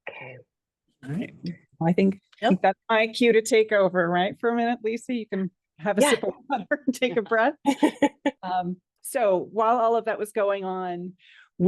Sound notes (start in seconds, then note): 6.0 laughs